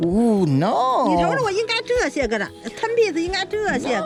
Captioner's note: speaking foreign language